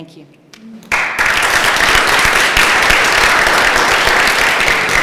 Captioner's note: applause